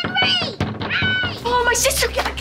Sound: stammering

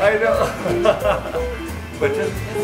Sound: laughing

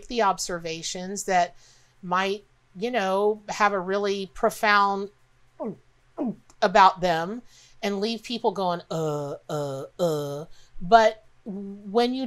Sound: gulp noise

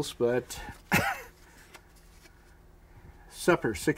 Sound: chuckles

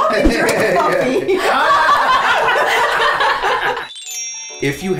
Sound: everyone laughing

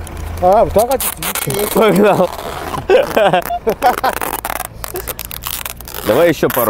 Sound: laughing

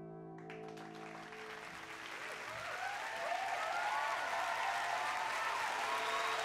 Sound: cheering

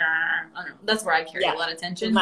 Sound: groaning

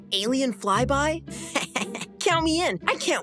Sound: laughs

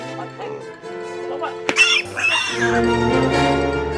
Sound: pig squealing

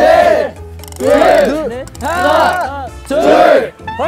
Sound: bones creaking beautifully

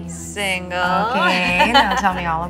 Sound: laughs

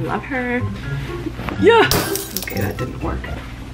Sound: glass breaking

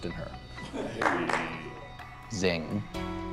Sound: scattered laughs

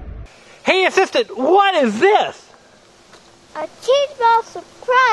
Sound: voiceover

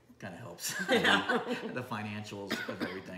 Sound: laughing

